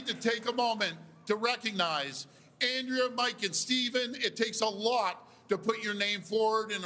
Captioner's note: cheers and Applause